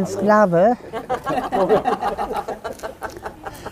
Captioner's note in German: Lachen